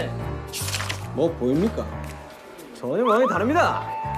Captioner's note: mysterious footstep